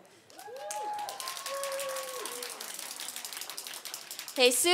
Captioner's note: applause